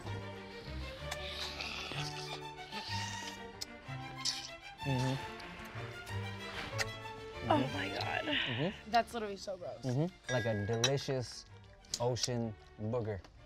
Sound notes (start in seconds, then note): 0.7 slurping